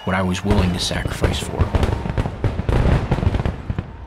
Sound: crowd cheering

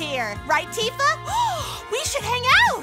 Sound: gasp

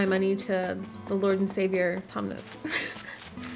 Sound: laughing

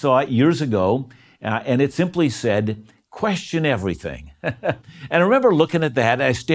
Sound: laughs

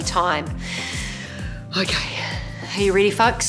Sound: breathes in loudly

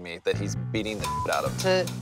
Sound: beep

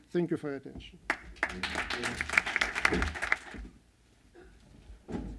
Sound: applause

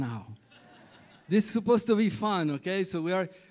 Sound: laughter

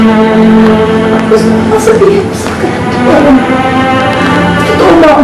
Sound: voice breaking

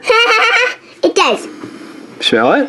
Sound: laughs

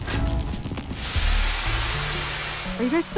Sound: hisses

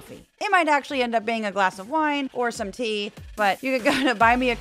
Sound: laugh

